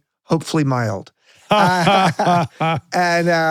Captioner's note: both laughing